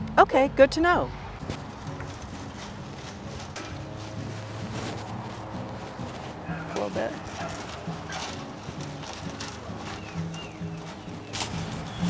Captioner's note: mulching